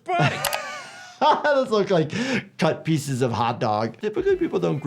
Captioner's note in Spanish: risas